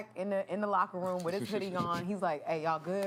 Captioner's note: laughs